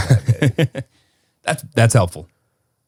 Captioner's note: laughing